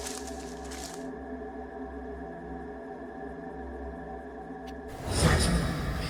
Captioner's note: leaves rustle; gentle mysterious music; dramatic menacing music